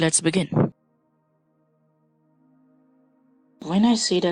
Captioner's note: silence